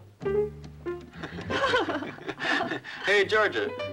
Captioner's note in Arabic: يضحك